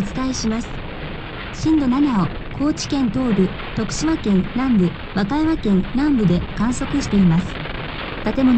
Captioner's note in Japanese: ラジオ